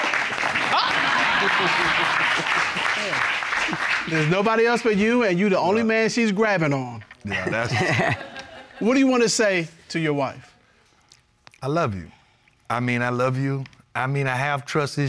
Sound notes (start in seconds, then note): 0.6 chuckles; 7.4 chuckles